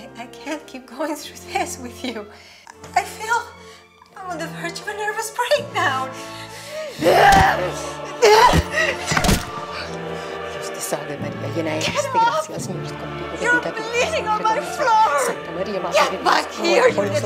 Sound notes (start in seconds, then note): 8.2 mother grunting; 12.0 praying in Spanish